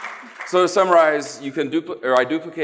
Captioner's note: applause